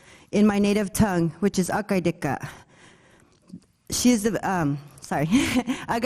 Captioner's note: speaking foreign language